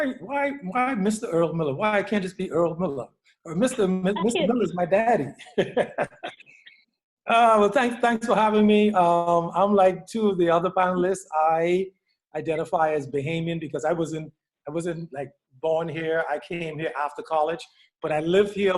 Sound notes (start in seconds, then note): 5.1 laughter